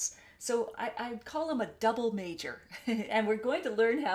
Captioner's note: chuckles